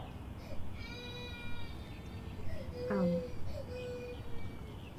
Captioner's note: baby crying